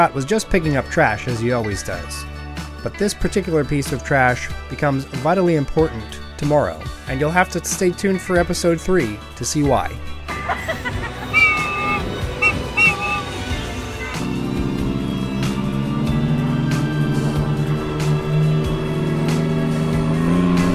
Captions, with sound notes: was just picking up trash as he always does-- but this particular piece of trash becomes vitally important tomorrow and you'll have to stay tuned for episode 3 to see why [train whistle] [laughter]